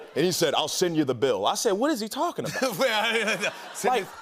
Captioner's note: normal voice